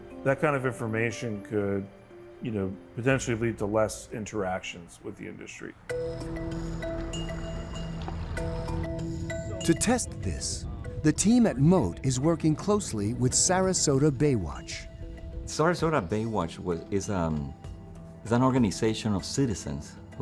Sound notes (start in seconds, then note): 6.0 lively music; 6.8 water sloshing